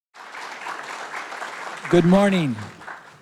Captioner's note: audience applauding